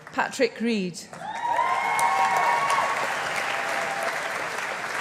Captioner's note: audience applauding